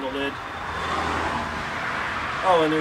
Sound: car noise over audio

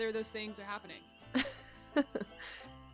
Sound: laughs

